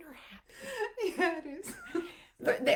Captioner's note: laughs